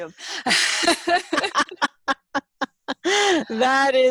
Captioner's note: laughing